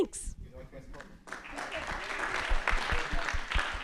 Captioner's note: applause